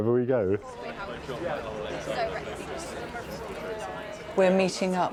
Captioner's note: indistinct chatter